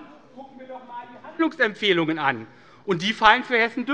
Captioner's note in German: none